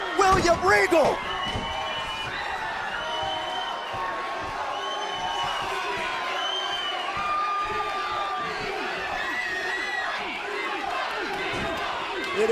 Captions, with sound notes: WILLIAM REGAL. >> [CROWD CHEERING]